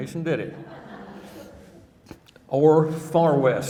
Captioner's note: audience laughing